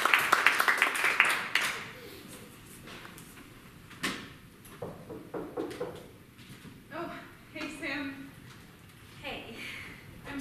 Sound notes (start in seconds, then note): 4.8 knocking